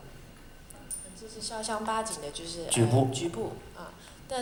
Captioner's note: Mandarin